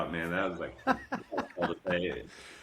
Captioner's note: laughing